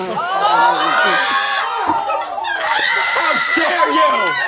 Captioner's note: all exclaiming